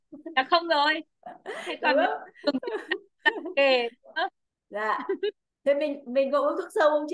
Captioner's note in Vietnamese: Tiếng cười